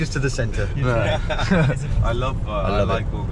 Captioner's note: laughing